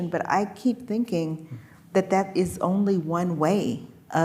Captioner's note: none